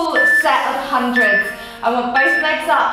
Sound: timer beeping

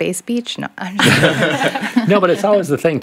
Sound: group laughs

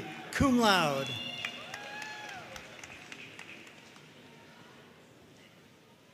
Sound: audience cheering and applauding

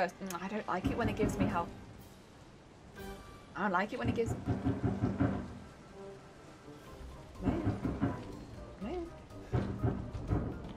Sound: knock knock knock knock

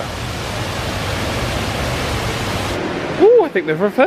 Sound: water rushes

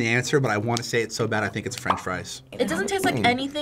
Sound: bubble popping

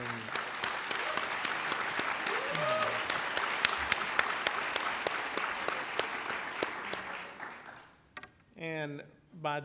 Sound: applauding

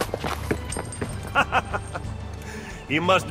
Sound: Machiavelli laughs

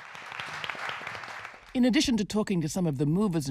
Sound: audience applauding

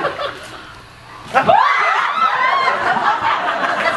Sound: screams

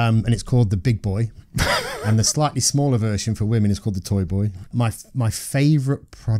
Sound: laughter

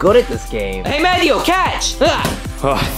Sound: grunting

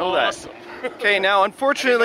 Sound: chuckles

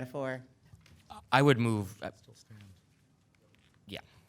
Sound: man speaks off mic

